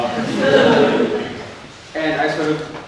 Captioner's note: audience laughs